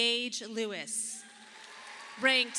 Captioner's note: audience applauding